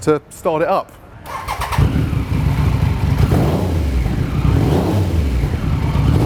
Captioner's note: engine rumbles and revs